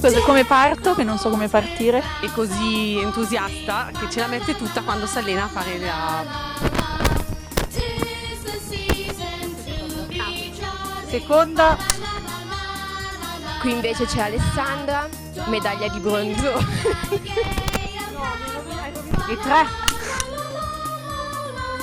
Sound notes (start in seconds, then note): 16.5 laughter